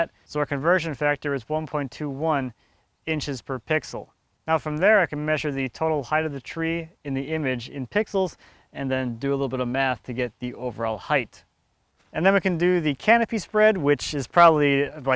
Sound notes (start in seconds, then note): none